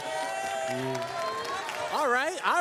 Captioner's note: cheers, applause